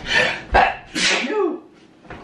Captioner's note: sneezes